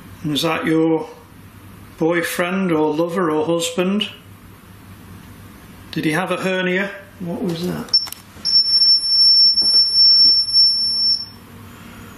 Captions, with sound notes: Was that your boyfriend, or lover, or husband? Did he have a hernia? What was that? (metre beeps)